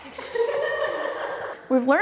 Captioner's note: laughing